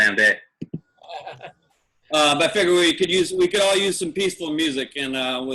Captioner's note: laugh